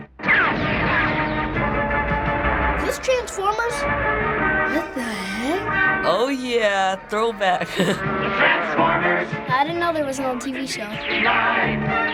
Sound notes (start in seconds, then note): 0.2 action music; 6.0 laughs